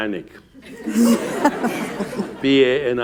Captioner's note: laughter